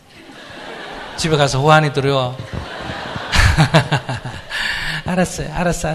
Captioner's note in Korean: 청중 웃음; 스님 웃음